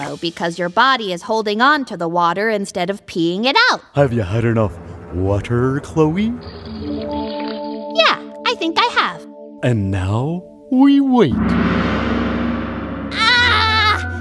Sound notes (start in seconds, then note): 6.3 sipping